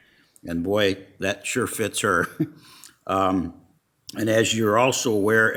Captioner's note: laughs